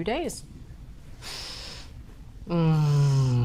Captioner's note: sniffs